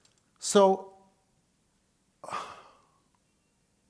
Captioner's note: sighs